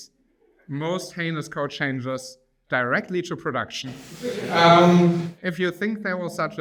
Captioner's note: audience laughing